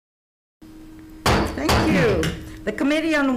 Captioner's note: gavel slamming the block